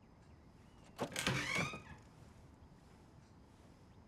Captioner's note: door creaks open